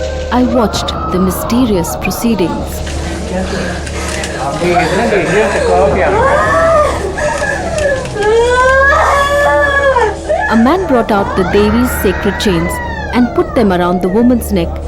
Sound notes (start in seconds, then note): 2.7 crying in pain